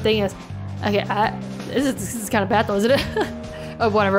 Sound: laughs

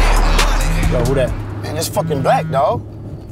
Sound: phone vibrates

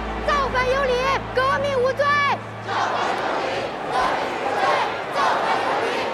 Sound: crowd shouting in foreign language

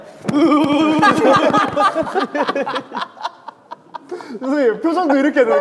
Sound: group laughter

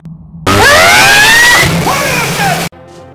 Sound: the screams of a million tortured souls

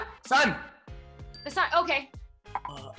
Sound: bell dings

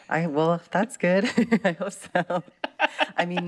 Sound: laughter

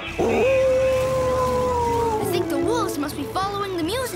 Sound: howling

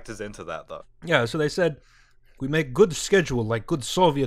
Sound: atrocious Russian accent

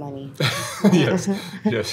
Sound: laughs

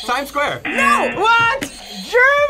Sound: buzzer; buzzer rings

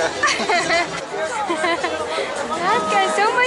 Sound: laughter

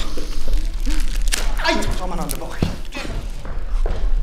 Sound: spank

